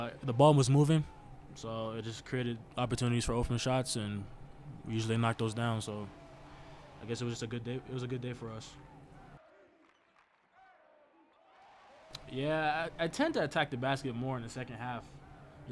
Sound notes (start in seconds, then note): 8.3 crowd chanting and cheering